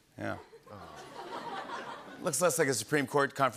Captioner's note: awws and laughter